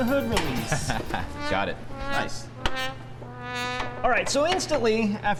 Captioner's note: laughs